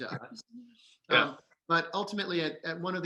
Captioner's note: laughing